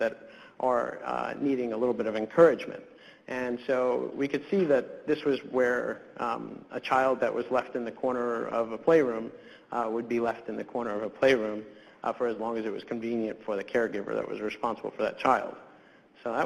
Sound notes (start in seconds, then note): none